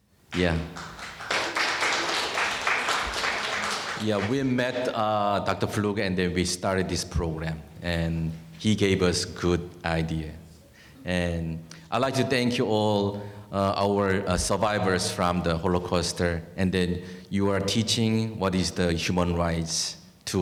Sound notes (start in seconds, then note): 0.3 audience applauding